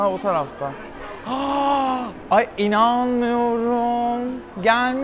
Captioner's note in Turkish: iç geçirir